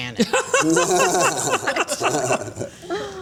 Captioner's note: laughter